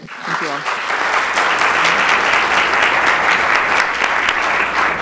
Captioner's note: applause